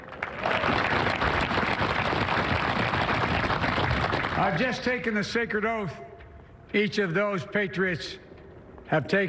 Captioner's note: applause